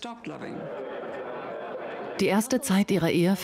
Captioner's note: people chattering